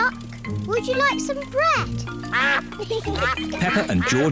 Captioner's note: ducks quack